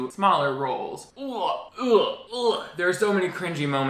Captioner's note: gags